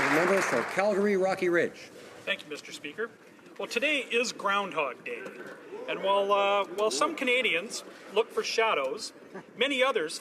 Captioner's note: applause